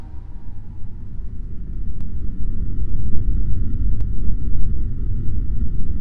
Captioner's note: airplane engine rumbling